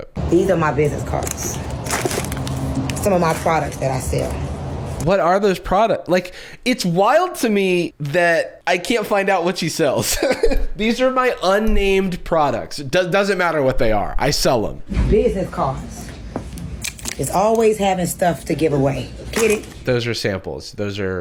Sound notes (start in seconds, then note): 1.2 package crinkles; 10.0 laughs